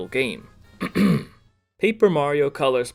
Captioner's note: ahem